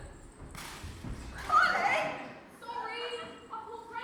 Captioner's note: pop as snake comes out